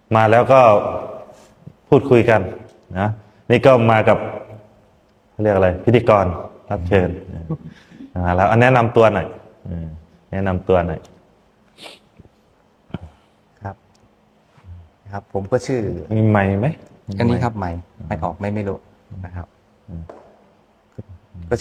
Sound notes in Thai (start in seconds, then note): 11.7 เสียงสูดหายใจ